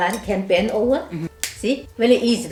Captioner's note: snap